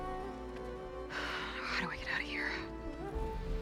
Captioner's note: sigh